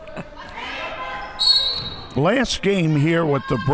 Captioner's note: laughs; referee blows whistle